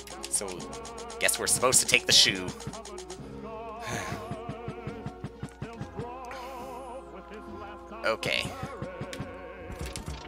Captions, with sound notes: So...I guess we're supposed to take the shoe. (*sigh*) Okay.